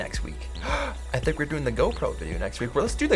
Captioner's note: gasp